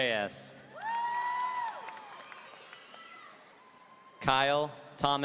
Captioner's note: audience cheering